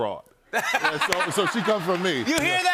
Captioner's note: laughter